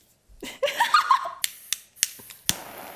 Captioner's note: clicking